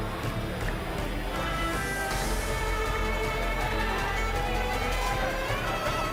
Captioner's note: crowd cheering